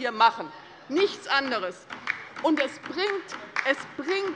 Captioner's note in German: Beifall bei der LINKEN